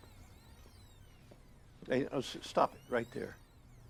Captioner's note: videotape squelching